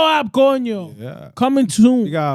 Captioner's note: speaking Foreign Language